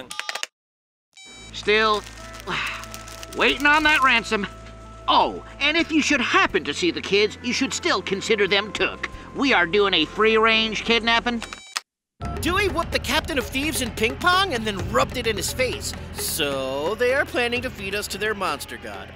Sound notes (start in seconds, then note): 1.2 beeps; 2.4 sigh